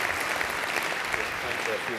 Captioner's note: applause